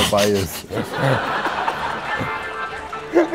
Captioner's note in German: Lachen